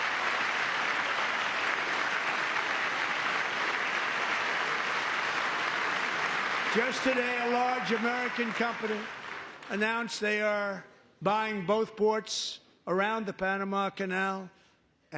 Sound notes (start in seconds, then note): 2.5 applause